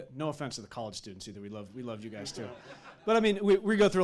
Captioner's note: audience laughing